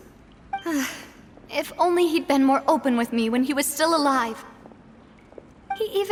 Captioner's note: sigh